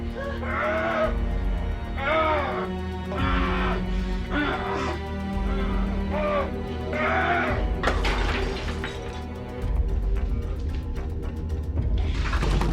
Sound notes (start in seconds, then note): 0.1 dramatic music; 2.0 Larry screaming; 7.8 bottle breaking; 9.7 dramatic music